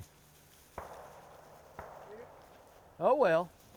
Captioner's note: distant gunshots echo